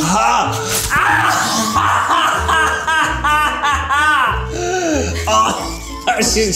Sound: screams

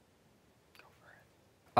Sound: whispering

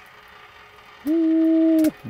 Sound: water boiling

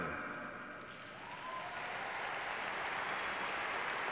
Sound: clapping

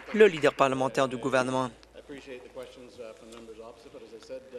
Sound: applause

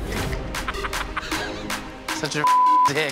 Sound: man in blue laughs

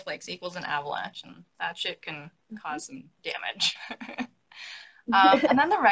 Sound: laughs

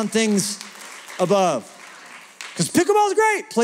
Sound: applause

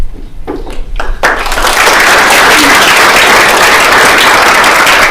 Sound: attendees applauding

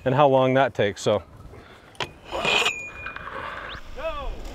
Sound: metal scrapping

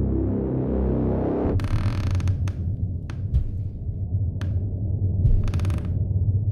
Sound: floor creaking, heavy footsteps

